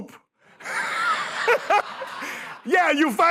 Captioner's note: laughter